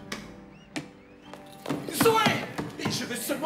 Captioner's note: pounding